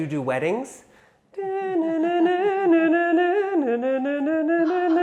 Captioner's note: imitating harp music